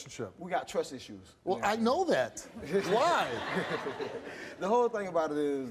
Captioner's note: laughs